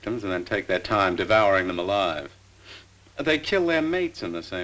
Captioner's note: none